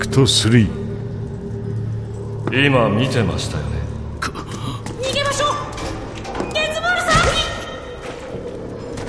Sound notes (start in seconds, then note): 4.2 Cris gasps